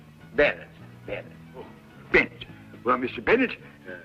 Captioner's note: none